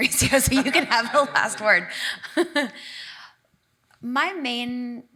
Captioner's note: laughs